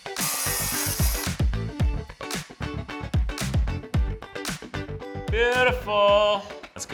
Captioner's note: drills screeching; upbeat music; saw blade cutting; upbeat music